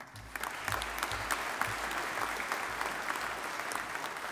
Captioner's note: audience applauding